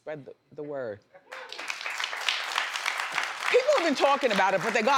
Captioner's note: audience claps